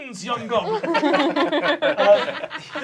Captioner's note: laughing